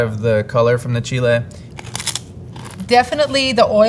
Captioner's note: mouths crunching